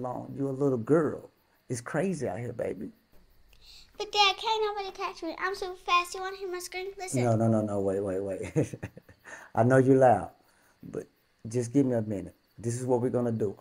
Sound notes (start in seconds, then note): 8.3 chuckles